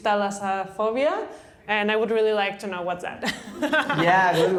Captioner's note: laughter